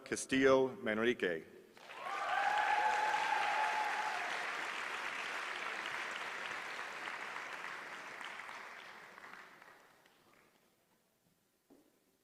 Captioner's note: applause